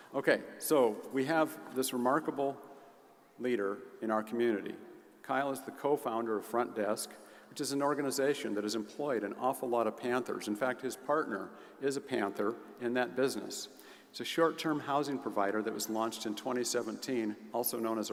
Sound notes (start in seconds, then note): none